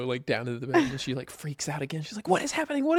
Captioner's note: laughs